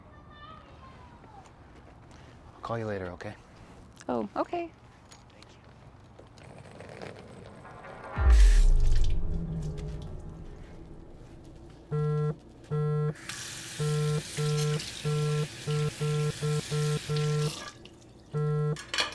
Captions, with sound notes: I'll call you later, okay? - Oh, okay. - Thank you. (dramatic music thumps) (phone buzzing erratically)